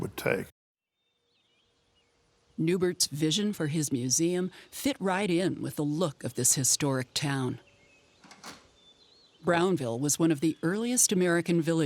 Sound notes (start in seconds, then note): 1.0 birds chirping; 8.2 door clicking shut